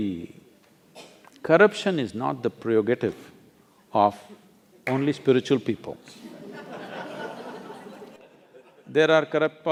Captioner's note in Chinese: 笑聲